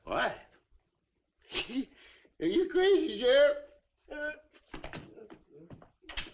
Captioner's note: scoffs